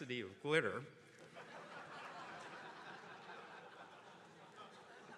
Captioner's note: attendees laughing